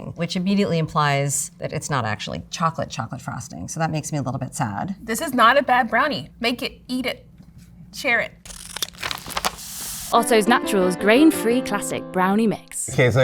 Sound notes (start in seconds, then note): 8.4 scissors snipping; 8.4 paper crinkling